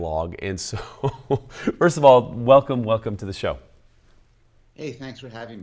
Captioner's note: laughs